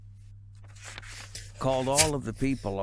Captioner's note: makes slapping noise